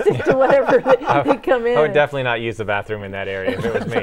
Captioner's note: laughing